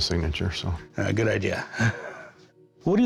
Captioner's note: laughs